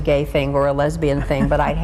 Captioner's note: chuckling